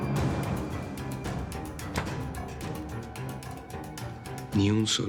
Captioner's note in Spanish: Ruido al cerrar la puerta